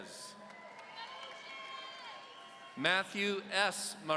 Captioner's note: audience cheering